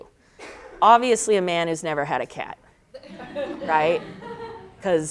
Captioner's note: laughter